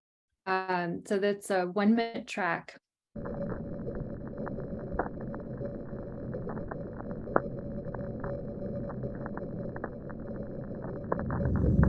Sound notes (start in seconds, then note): 3.1 recording playing; 11.4 glaciers and ocean roaring and crackling